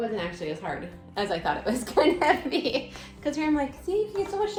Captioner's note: laughing